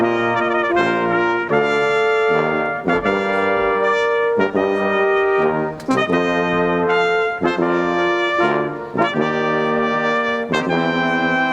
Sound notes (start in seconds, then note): none